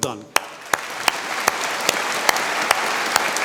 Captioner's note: applause